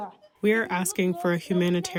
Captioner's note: through translator